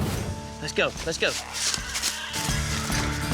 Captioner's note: boar screeching